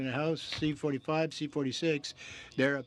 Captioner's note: speaking French